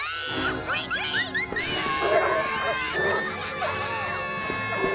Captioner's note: all screaming; dogs barking; costumes squeaking